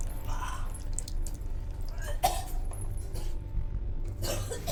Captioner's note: Lock retches and coughs